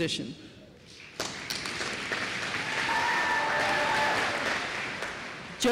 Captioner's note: applause